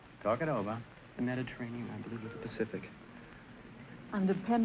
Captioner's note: whispering